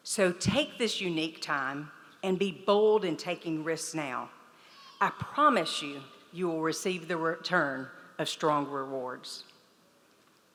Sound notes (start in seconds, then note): none